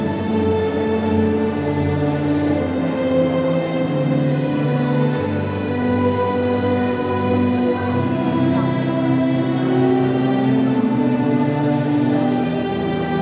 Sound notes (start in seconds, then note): none